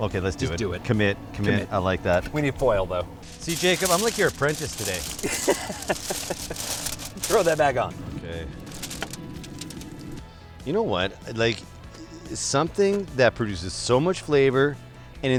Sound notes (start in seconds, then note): 5.2 laughter